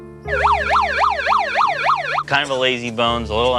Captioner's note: siren blaring